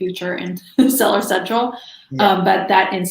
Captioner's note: chuckles